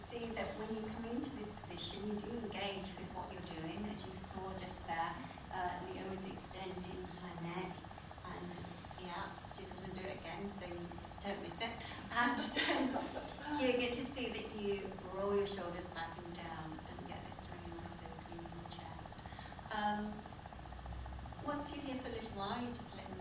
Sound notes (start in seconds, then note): 12.3 laughter